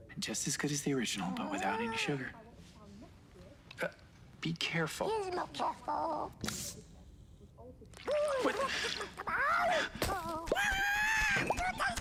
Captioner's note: cute noises -- angry noise!